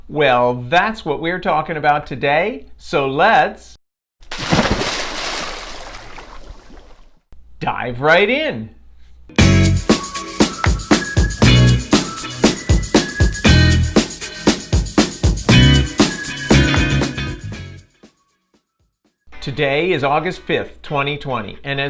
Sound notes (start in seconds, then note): 4.2 water splashing; 9.5 upbeat music